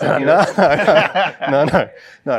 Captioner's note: laughter